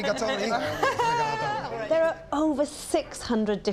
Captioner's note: laughs